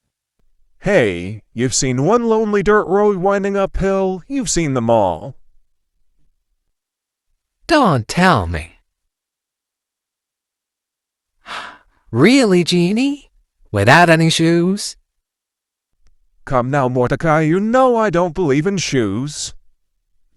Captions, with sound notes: Hey, you've seen one lonely dirt road winding uphill, you've seen them all. Don't tell me... [Sighs] Really, Genie? Without any shoes? Come now, Mordecai, you know I don't believe in shoes.